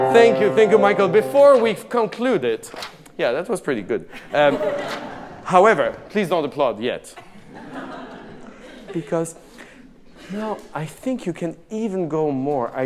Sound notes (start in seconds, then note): 7.1 audience laughing